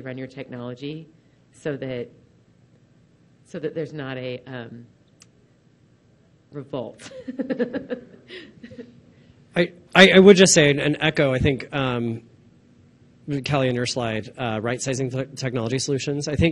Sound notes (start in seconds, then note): 7.1 laughs